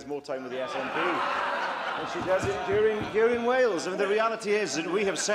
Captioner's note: laughter